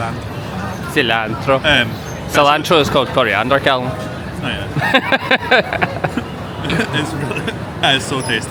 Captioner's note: laughs